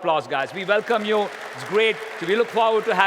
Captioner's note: applause